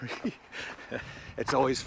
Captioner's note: laughter